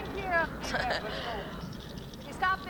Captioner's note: Danny laughs